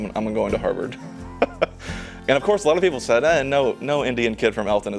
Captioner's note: laughs